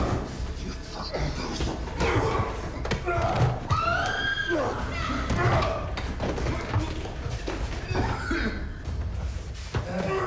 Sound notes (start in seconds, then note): 0.8 grunts and groans; 2.7 thuds; 3.7 Nina screams; 4.8 grunts; 5.2 thud; 7.5 Bjorn coughs